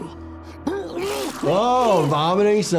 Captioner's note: Angstrom vomiting